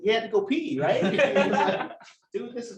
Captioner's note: laughter